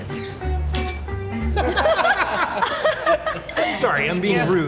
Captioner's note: glasses clink, laughter